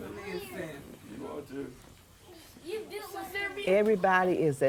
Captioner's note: overlapping chatter